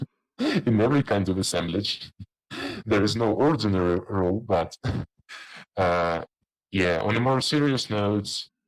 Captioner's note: chuckles